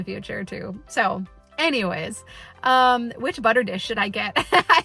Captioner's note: laughs